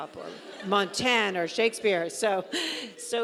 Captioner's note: audience laughing